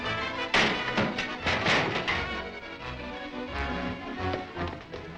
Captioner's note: Volkite clatters